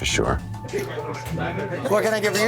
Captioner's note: chatter